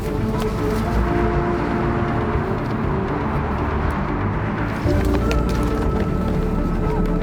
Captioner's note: suspenseful music continues; traffic droning